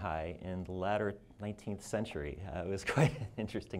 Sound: chuckles

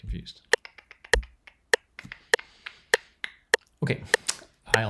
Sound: metronome ticking

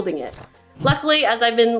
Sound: jingling sound

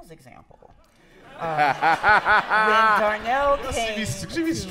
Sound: laughter

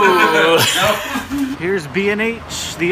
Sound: everyone laughs

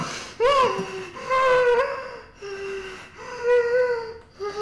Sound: woman pants

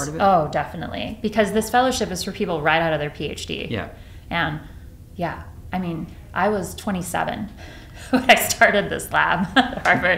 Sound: laughs

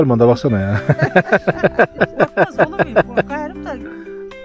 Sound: laughs

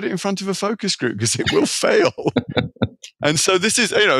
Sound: laughing

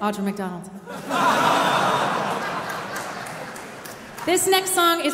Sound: audience laughing

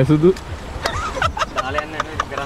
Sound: laughing

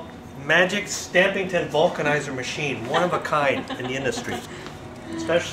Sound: laughs

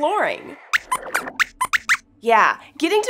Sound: squeaks squeaks

